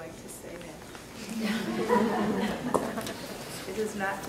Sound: laughing

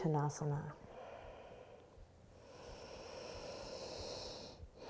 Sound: breathing

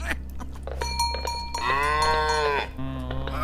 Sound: Tony moos excitedly

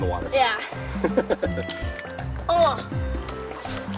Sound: Mr. Engineer laughing

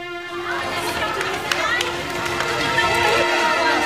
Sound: crowd clamoring

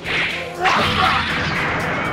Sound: thud!!

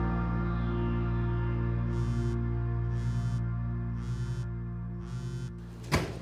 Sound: phone: vibrates

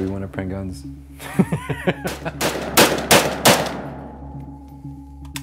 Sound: laugh

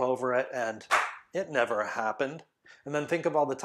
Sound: claps

